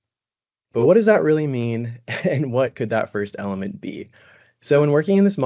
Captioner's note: brief laughter